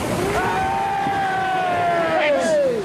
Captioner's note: cheering